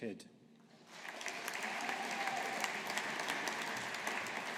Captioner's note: audience applauding